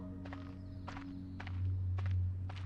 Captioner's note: footsteps